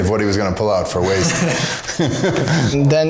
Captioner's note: nervous laughter